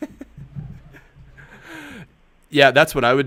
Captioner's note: laughs